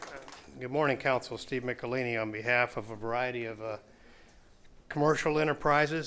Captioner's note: applause